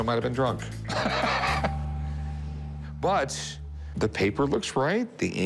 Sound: laughs

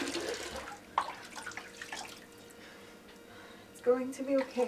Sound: faucet cuts off

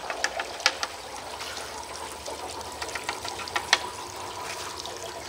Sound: objects clattering

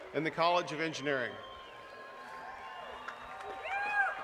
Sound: applause

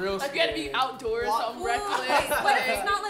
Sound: loud laughter

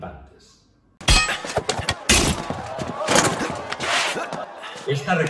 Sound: sound of weapons clink

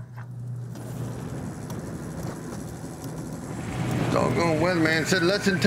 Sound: boat and wind sounds

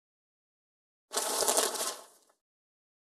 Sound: sound of paper

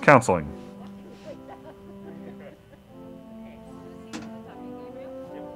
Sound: laughing

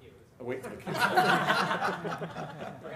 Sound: laughter

